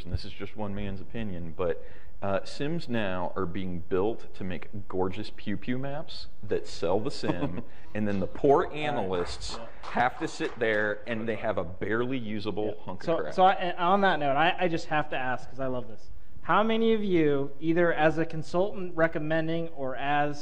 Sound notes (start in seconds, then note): 7.2 spattering of applause